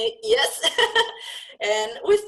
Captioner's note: laugh